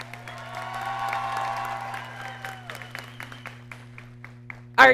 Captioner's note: audience cheering